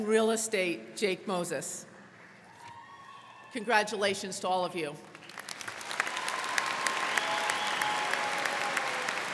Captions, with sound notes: In Real Estate, Jake Moses. (crowd cheering) Congratulations to all of you. (crowd clapping)